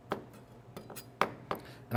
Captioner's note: knife thumps